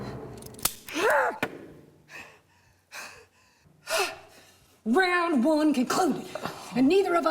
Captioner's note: shouts; panting